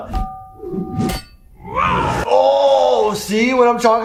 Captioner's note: smashing effect